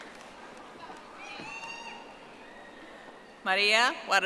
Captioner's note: audience applauding